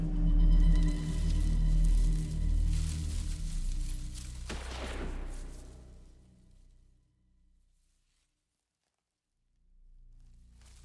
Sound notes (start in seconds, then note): 4.5 gun banging